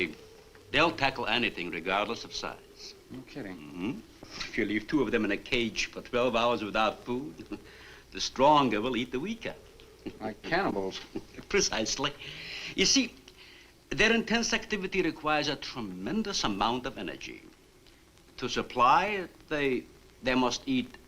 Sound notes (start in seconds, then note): 7.1 chuckles